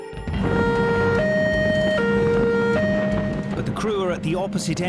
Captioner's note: alarm blaring